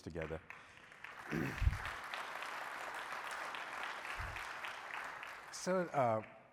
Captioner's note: applause